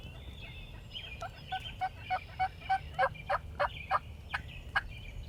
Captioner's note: hunters using turkey call